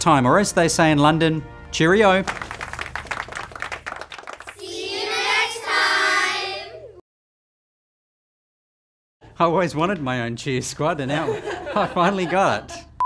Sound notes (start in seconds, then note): 2.1 people clapping; 11.7 woman laughing